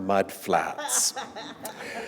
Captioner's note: laughter